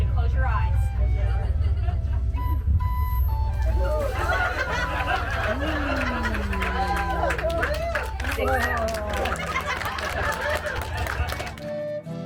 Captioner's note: laughter